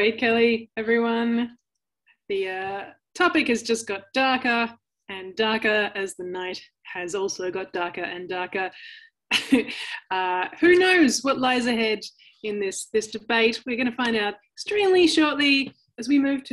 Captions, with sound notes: - Wave Kelly, everyone. The topic has just got darker and darker as the night has also got darker and darker. (chuckles) Who knows what lies ahead in this debate. We're gonna find out extremely shortly as we move